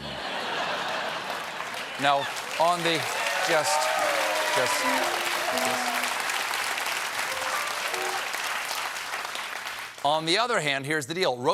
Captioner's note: applause